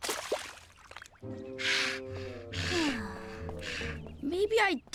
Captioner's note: sighing